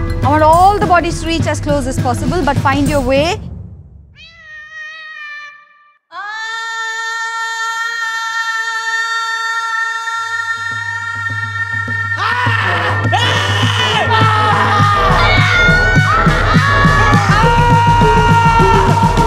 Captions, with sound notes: ‘All the bodies reach as close as possible. But find your weight.’ [cat meows] [screams]